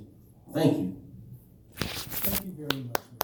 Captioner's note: applause